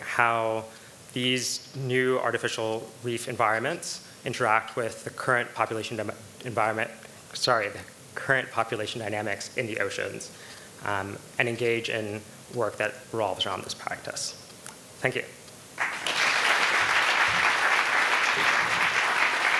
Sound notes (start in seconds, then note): 15.8 audience applauding